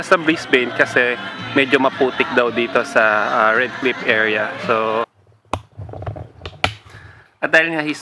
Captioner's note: +mosquitos